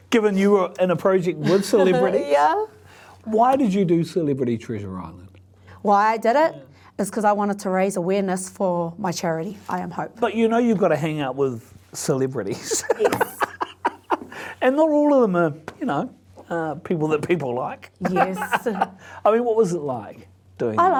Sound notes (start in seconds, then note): 12.5 laughs; 18.0 laughs